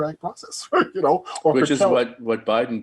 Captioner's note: chuckling